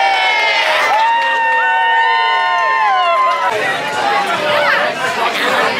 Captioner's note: crowd cheers loudly; overlapping chatter